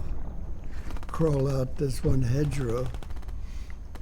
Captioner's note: machine guns firing